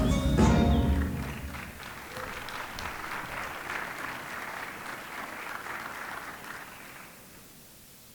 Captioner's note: applause